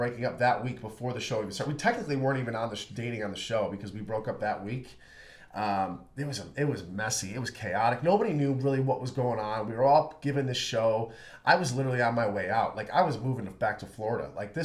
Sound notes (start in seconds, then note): none